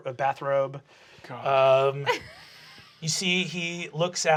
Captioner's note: laughing